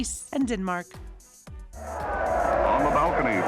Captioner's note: crowd cheering